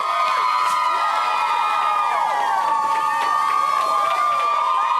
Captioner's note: cheering